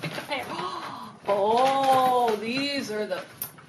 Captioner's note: gasp